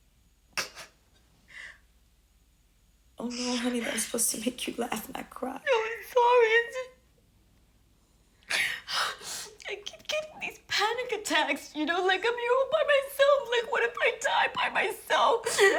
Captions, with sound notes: [sobs] Oh, no, honey, that was supposed to make you laugh, not cry. [weeping] No, I'm sorry. It's just-- [sobs] I keep getting these panic attacks, you know? Like, I'm here all by myself. Like, what if I die by myself?